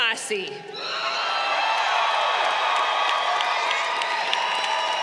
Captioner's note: crowd cheering